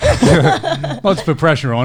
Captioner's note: all laughing